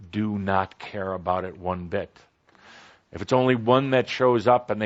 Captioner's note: none